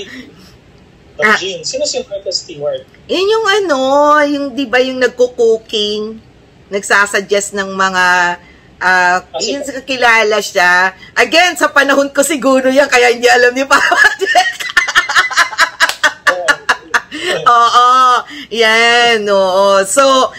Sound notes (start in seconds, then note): 16.3 laughter